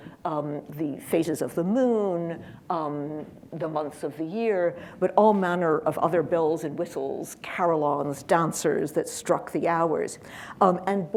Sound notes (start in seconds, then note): none